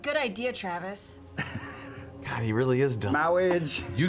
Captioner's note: laughs